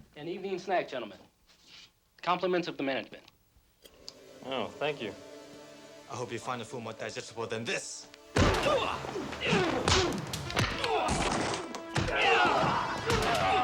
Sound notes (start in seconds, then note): 8.3 body thudding; 8.4 men groaning; 10.8 dramatic music